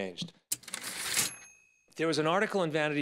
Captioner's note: typewriter ding